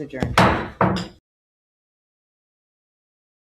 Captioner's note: gavel hit